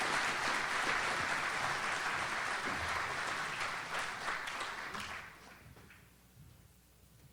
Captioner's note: audience applauds